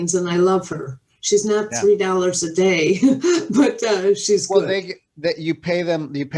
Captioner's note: chuckles